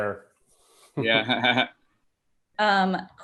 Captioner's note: laughs